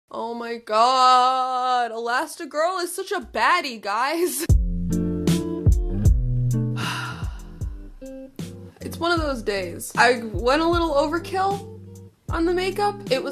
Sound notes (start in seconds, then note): 6.7 exhales